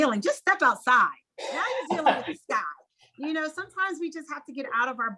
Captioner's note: laugh